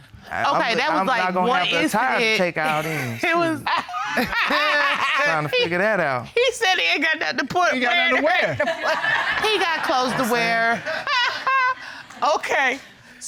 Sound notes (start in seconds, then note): 2.6 judges laughing; 8.2 audience laughing; 11.1 Judge Dana laughs